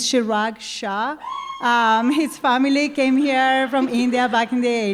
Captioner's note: cheering